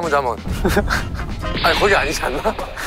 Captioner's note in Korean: 당당하게